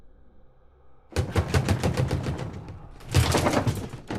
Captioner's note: fist thumping